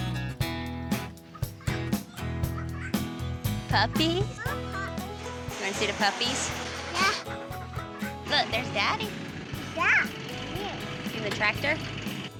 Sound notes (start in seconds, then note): 3.2 giggling